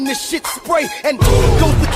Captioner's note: boom!